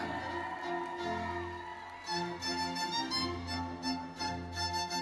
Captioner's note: audience cheering